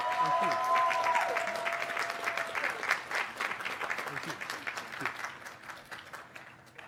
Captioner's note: cheers and applause